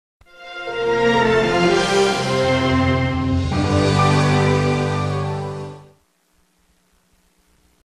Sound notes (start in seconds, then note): 0.2 orchestral music playing; 6.1 VHS static